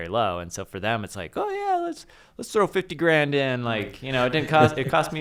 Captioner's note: laughter